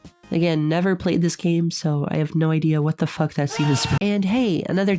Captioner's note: screaming